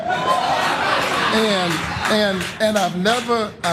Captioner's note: applause